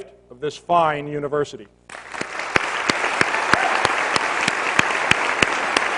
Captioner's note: cheers and applause